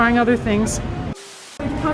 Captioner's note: static